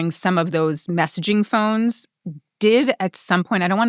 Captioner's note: none